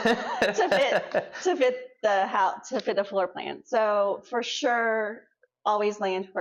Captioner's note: laughs